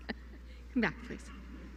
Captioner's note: laughter